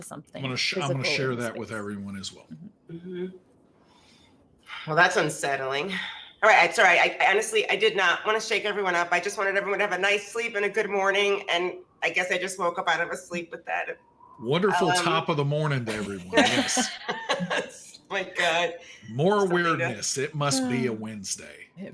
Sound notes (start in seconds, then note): 15.9 all chuckling